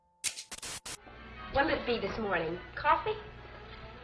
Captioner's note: TV static